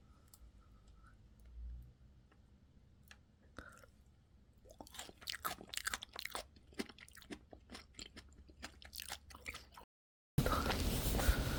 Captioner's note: eating sounds